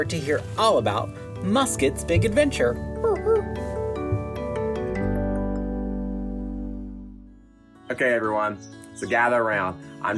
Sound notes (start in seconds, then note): 3.0 upbeat music; 3.0 imitates dog barking